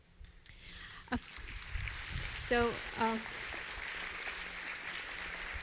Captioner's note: applause